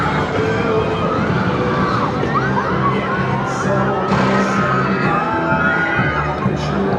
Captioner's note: screams